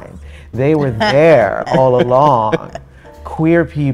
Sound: both laughing

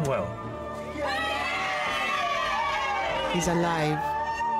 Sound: group cheering

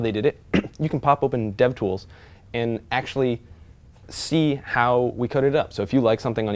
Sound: cough

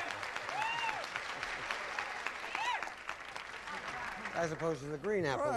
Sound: audience applauding

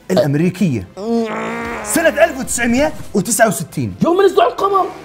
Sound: grunts

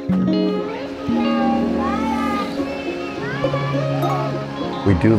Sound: chatter

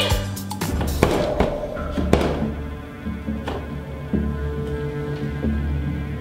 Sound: gasps; eerie music; freezer door rattles

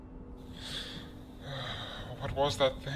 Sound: sigh

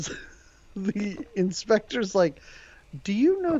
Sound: laughing

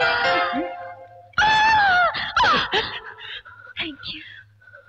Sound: groaning

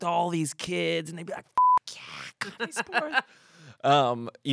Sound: beep

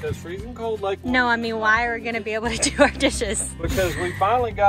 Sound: laughter

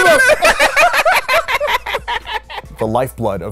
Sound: laughs

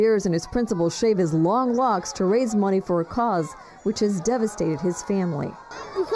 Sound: cheering

